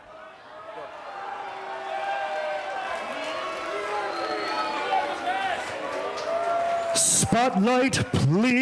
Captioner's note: cheers and applause